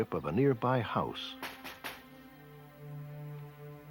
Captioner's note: knocking